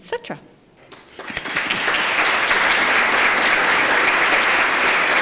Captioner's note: applause